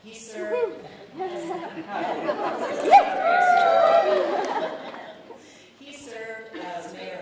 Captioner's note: laughter, overlapping chatter